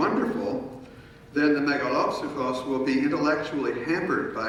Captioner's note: speaking in foreign language